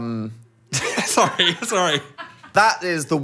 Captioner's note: laughs